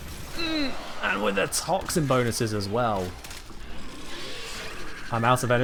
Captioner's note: painful noise